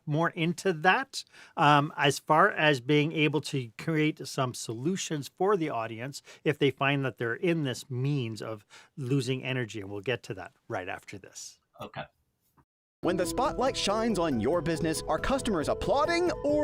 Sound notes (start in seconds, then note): 12.8 voiceover